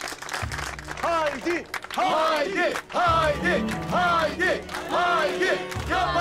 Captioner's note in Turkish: Alkışlıyorlar